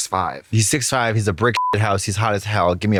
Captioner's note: beep